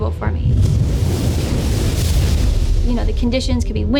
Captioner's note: waves crashing